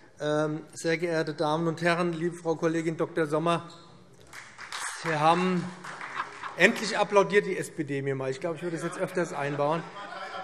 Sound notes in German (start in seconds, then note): 4.2 Beifall SPD